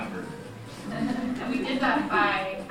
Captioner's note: audience laughing